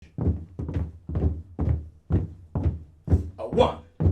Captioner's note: marching footsteps